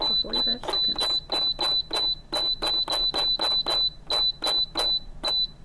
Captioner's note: stand mixer beeping